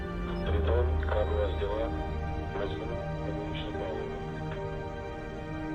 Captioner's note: man speaking in foreign language